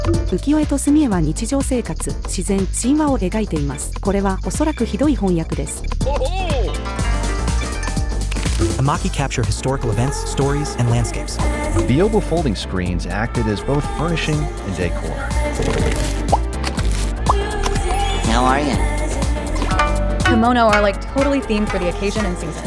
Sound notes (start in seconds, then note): 17.6 stamping